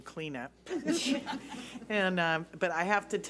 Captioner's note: laughs